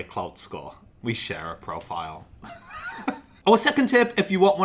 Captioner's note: chuckles